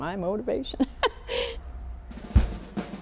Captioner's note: laughing; upbeat drum music